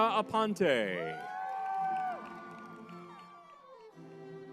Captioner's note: crowd cheering